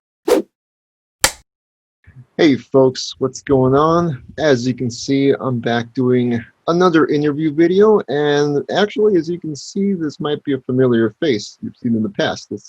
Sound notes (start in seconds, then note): 1.2 whoosh, film clapper sound